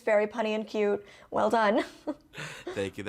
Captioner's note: chuckles